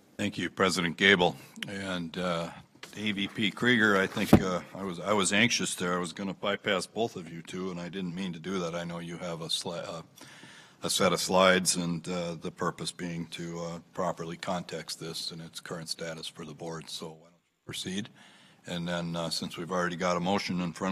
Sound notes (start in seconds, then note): none